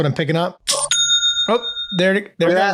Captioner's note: ding